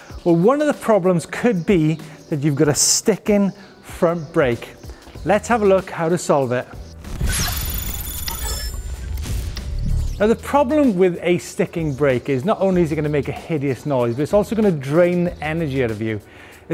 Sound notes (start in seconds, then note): 7.1 electronic whirring